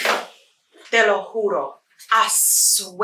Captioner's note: Spanish speaking